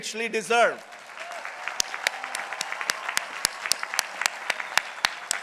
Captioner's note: people applauding